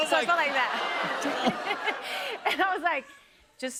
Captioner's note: audience exclaims